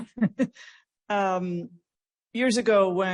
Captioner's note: laughs